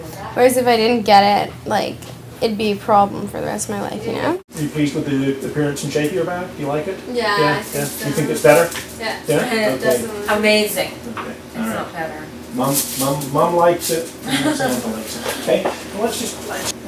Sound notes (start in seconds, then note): 4.2 doctor speaking